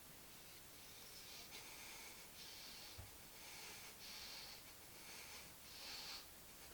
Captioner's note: inhales and exhales quickly